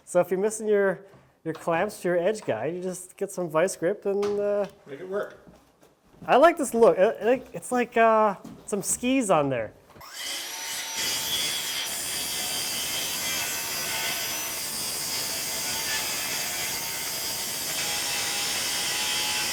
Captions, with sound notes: So if you're missing your clamps to your edge guy, you just get some vice grip and... - Make it work. - I like this look it's like some skis on there. (machine whirring)